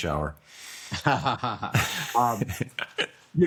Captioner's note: laughs